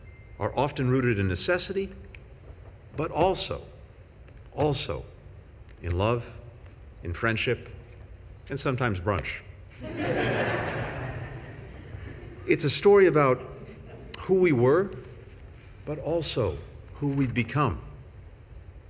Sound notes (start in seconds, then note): 9.8 laughter